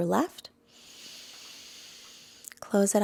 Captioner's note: inhales deeply